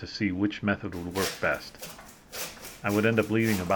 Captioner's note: saw cutting